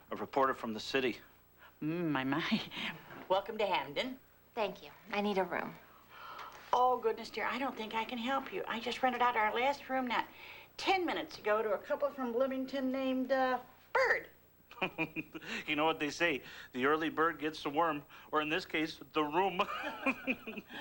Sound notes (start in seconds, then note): 14.7 chuckles